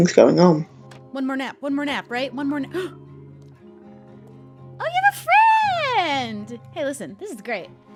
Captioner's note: gasp